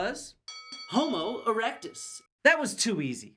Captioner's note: ding Ding Ding